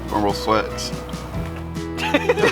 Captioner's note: laughter